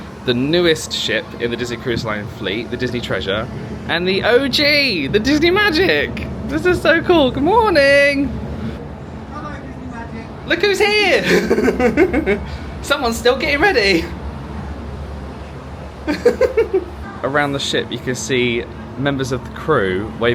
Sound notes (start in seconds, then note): 11.1 laughs; 16.0 laughing